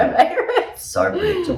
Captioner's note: both laughing